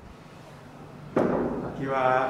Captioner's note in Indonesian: ketukan pintu